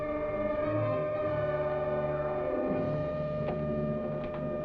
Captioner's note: loud whirring